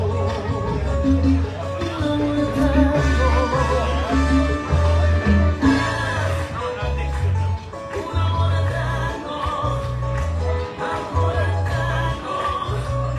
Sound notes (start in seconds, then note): 1.2 in Spanish; 5.5 in English; 8.1 in Spanish